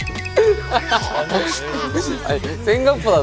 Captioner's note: giggling